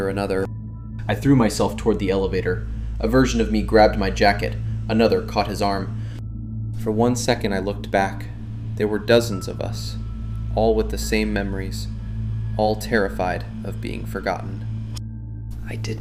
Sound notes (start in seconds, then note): 6.0 voice breaking; 14.8 quietly